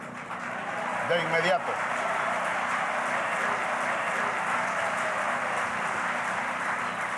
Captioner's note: cheers and applause